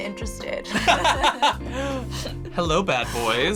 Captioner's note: laugh